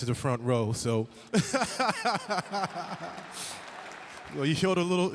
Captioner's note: laughing